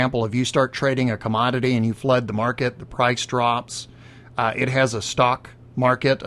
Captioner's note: none